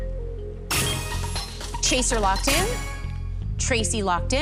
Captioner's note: chime, chime